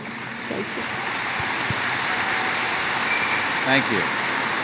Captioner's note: applause